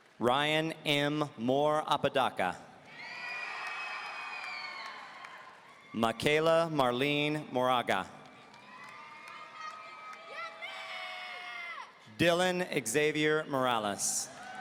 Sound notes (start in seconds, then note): 0.0 audience applauding; 2.9 audience cheering